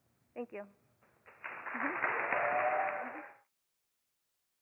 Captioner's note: audience clapping and cheering